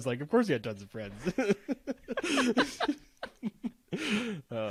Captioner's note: laughing